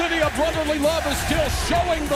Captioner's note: crowd cheering